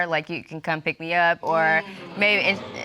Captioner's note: audience exclaims